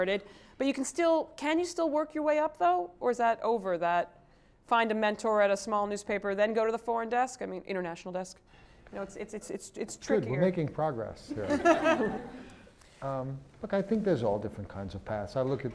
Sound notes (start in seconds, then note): 11.3 laugh